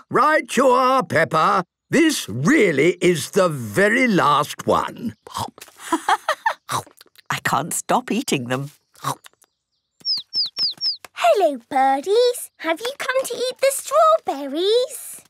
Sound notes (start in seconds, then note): 5.2 laughing; 10.1 chirping